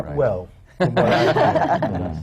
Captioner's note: laughter